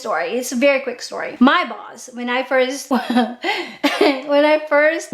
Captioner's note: laughs